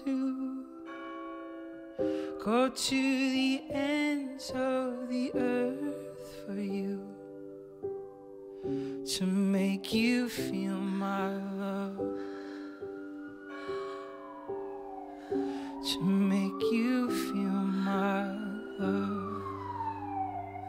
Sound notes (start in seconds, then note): 0.8 bell rings; 12.7 bell rings; 18.8 siren wailing in distance